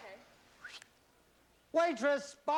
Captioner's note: whistles